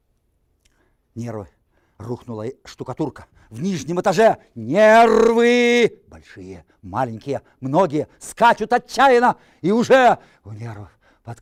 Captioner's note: reciting poem in Russian